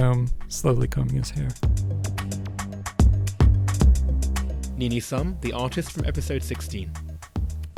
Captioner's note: voiceover